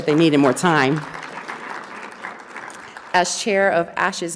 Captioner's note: audience applauding